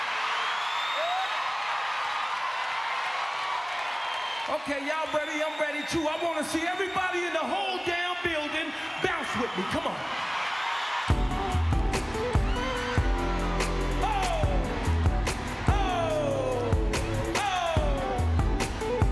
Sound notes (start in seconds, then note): 0.0 screams